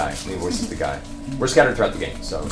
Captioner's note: laughs